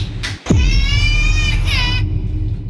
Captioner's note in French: pleurs de bébé